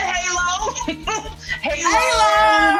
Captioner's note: laughs